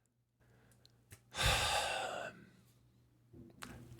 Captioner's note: sigh